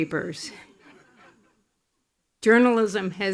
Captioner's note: attendees laughing